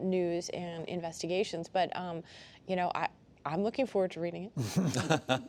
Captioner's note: laughter